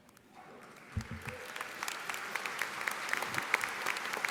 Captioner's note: audience applauding